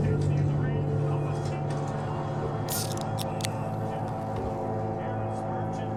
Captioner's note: TV announcer speaking beneath music